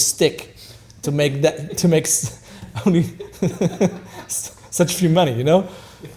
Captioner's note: laughing